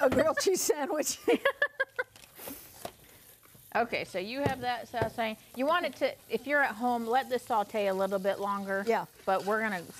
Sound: laughter

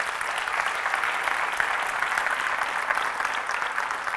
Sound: audience applause

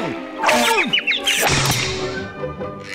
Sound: crashing

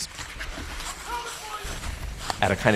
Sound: people yelling

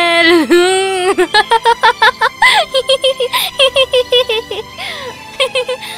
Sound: laughs

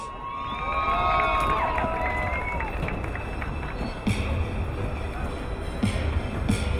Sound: crowd cheering; crowd applauding

